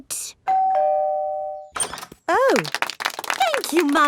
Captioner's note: doorbell ringing; crowd applauding